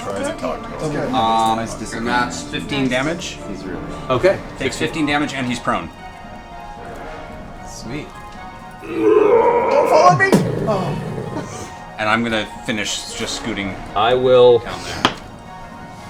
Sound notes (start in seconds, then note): 10.2 heavy impact; 15.6 laughs